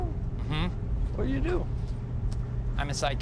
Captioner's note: aggressively